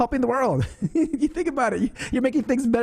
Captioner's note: laughs